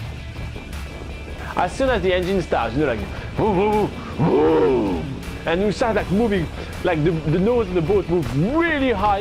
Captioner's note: roar noise